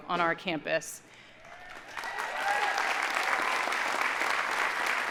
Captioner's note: audience applauding